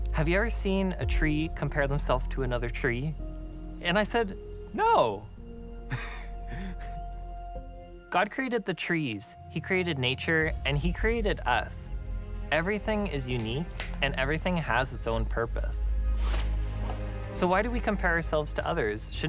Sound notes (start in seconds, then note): 5.8 laughs